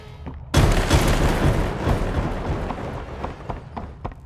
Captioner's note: thunder rumbles